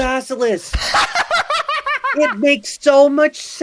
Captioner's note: laughs joyously